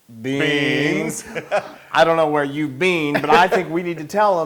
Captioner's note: laugh